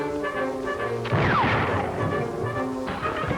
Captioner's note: gunshot